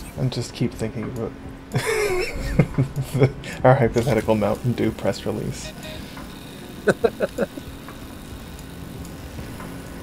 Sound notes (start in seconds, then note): 2.5 laughs; 6.8 laugh